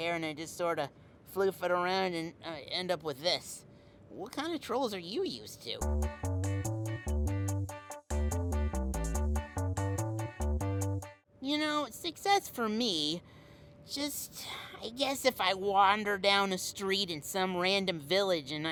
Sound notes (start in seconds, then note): 5.8 playful music; 14.1 sighs